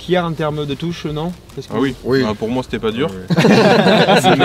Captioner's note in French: rires